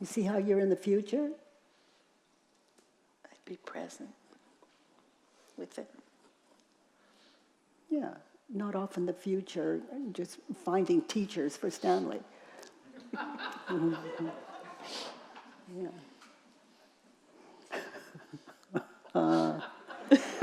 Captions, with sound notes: You see how you're in the future? - I'd be present, with it. - Yeah, not off in the future, just finding teachers for Stanley. (audience chuckling) (laughter)